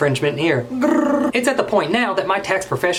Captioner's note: rolls tongue